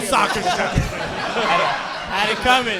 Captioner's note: audience laughing